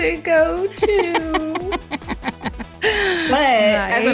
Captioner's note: laughs